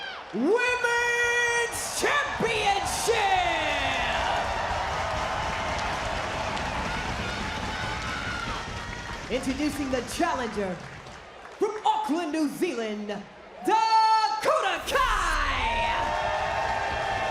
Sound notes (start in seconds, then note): 5.6 crowd cheers